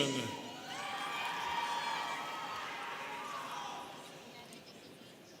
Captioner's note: students cheering